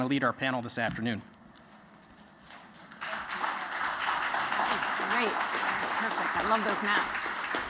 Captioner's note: applause